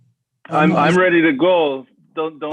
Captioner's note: male Voice